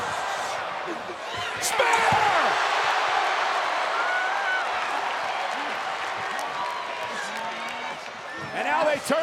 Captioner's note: applause